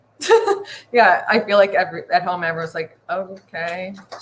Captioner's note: chuckles